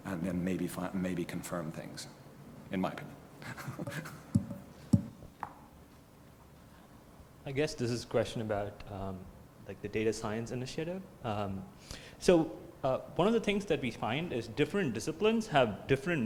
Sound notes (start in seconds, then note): 3.4 laugh